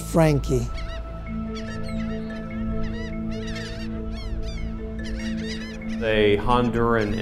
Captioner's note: seagulls